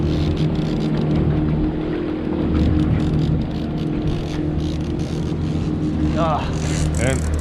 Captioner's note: reel cranking